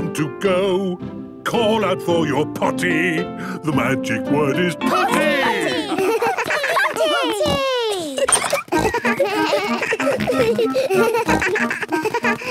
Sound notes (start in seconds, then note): 7.1 giggles; 8.8 snorts, bleating